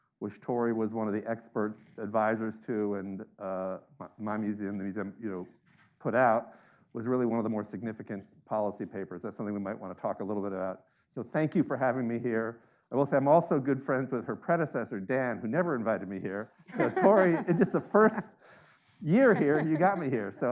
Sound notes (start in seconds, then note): 16.7 laughing